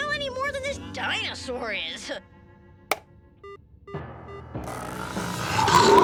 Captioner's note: button beeps; menacing music; dinosaur roars